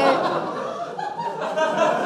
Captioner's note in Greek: κοπελα γελαει πολυ